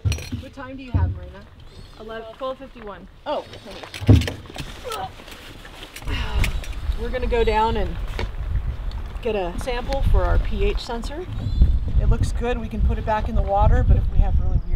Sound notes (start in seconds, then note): 5.0 grunts